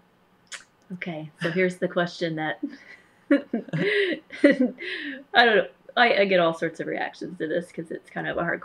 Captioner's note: laughter